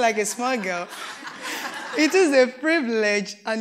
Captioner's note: laughter